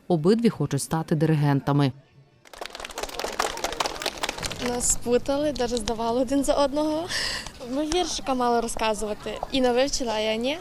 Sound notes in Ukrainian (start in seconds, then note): 2.4 Оплески